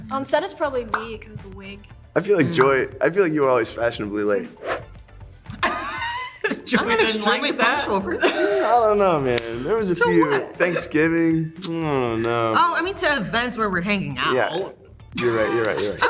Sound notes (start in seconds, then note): 4.5 swoosh sound; 5.7 Hunter wheezes; 11.5 smacks lips; 15.7 Hunter guffaws